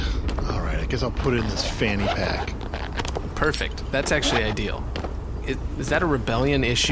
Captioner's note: small sigh; zipper noises, clinking noises